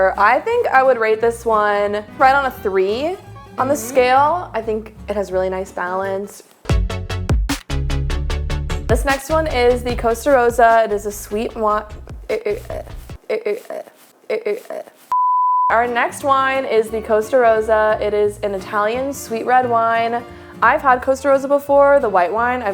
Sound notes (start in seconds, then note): 6.6 upbeat music; 12.6 stutters; 15.1 beep